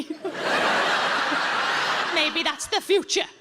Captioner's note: audience laughs